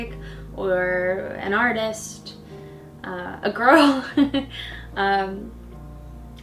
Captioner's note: laughs